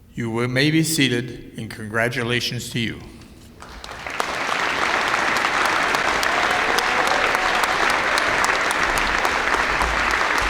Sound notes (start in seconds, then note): 3.6 applause